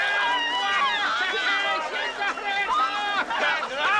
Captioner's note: Аплодисменты аудитории